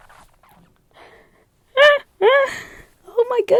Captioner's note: laughing